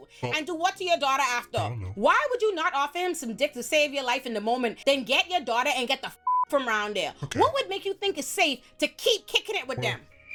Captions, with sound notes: and do what to your daughter after. Why would you not offer him some dick to save your life in the moment then get your daughter and get the (beep) from around there? What would make you think it's safe to keep kicking it with them?